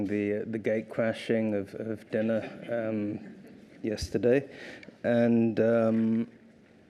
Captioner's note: laughter